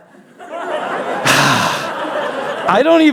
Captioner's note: laughter